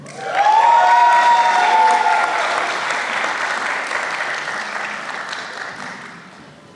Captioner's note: applause